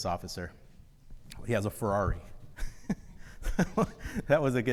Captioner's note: laughs